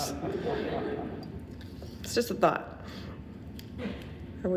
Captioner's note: audience laughing